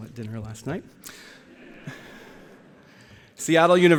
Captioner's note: laughter